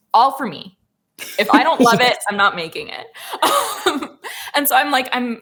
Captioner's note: laughs